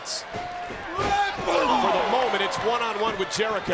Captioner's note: applause